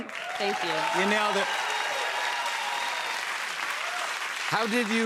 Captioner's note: cheers and applause